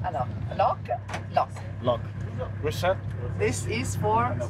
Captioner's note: speaking in English